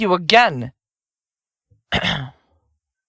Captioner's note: clears throat